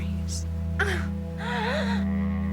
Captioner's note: sexual moaning